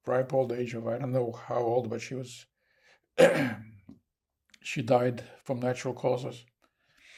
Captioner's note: clears throat